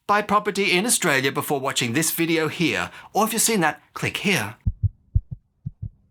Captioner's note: heartbeat